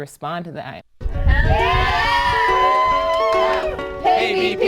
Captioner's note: cheers